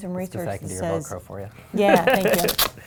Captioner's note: chuckles